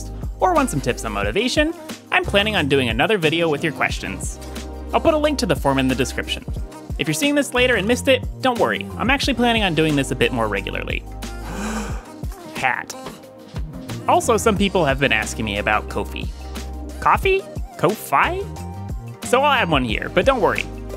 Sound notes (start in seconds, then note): 11.2 DEEEEP breathhhhhh